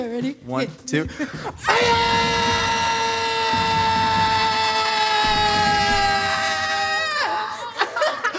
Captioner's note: screaming